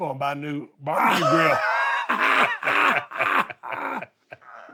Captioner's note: both laughs